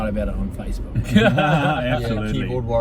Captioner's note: all laugh